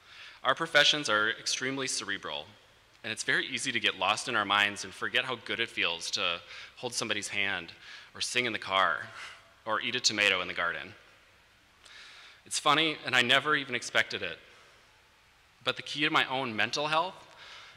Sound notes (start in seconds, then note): none